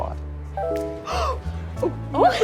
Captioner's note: notification dings; laughter